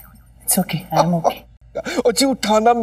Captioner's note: Laughs